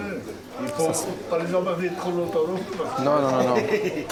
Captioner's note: laughs